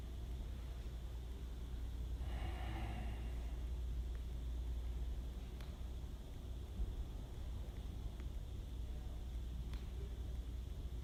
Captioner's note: heavy sigh